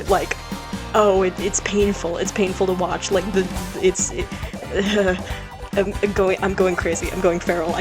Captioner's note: stammers